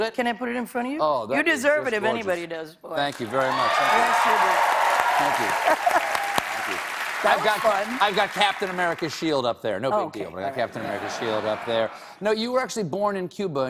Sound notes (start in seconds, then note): 3.1 cheers and applause